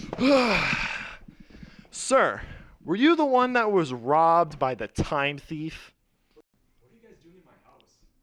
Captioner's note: reporter exhaling